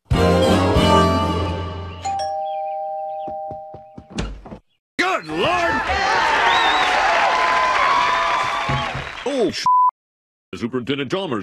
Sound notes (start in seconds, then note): 2.0 doorbell